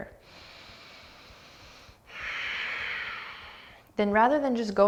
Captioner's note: deep breathing